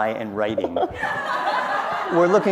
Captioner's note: laughter